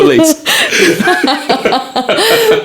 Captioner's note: laughing